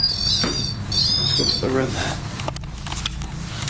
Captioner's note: beeping